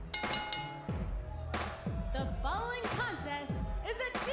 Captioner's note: bell ringing